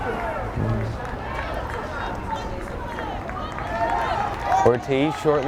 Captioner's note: fans yelling and clapping